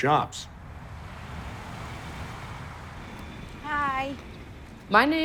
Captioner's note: engines rev